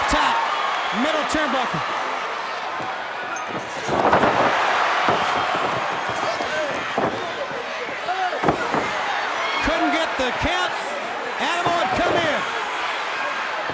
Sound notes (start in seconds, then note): 0.0 crowd cheers; 3.5 mat thuds